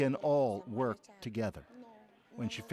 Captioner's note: speaking alternate language